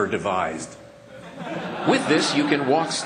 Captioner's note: laughter